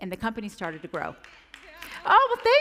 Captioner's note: applause